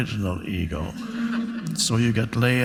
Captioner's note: audience laughs